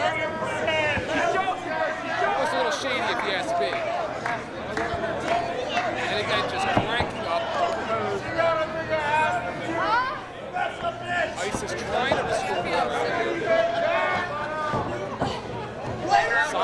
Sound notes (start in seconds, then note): 8.0 crowd shouting